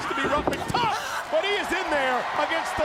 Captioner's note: screams